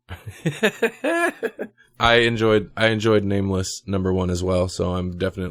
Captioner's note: laughs